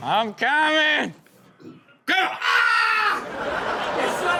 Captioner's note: screams; audience laughs